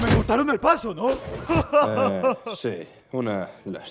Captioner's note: laughing heartily